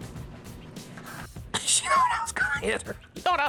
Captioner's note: laughing